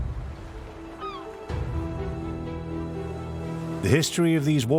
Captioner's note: gulls calling